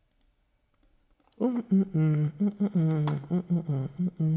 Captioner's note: humming